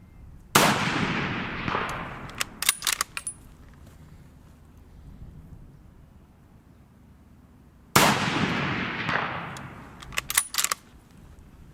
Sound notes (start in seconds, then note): 0.5 gun fires; 1.6 gun cocks; 7.9 gun fires; 9.0 gun cocks